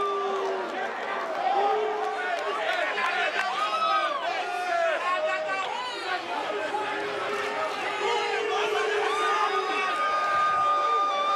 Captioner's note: cheers & boos